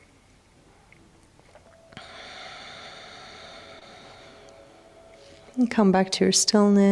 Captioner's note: sighs